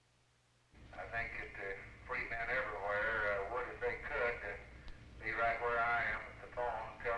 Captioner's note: LBJ over phone